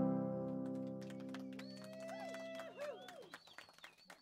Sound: applause and cheers

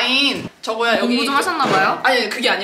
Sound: laughing

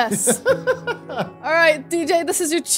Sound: laughing

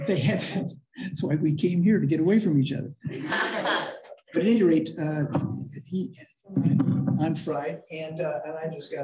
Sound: laughter

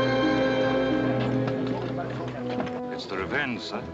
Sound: chattering

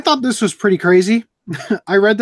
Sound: laughs

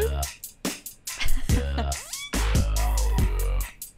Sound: light laughter

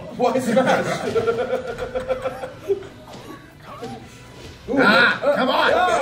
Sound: laugh

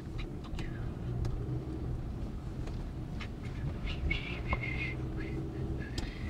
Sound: Barry whistling

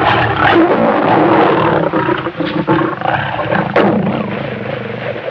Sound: very angry Lion roars and fighting sounds

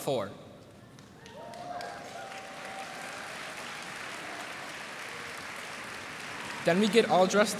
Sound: applause

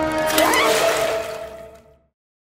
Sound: water splashes; scream

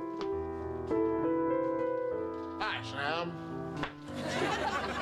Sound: Imitating Humphrey Bogart

